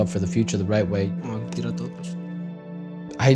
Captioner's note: in Spanish; in English